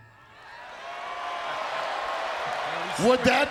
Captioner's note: crowd cheers